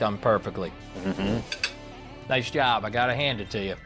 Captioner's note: agreeing